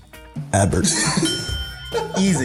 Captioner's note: laughs; ding